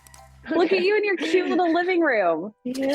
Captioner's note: chuckling